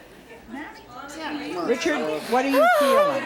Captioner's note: crowd chattering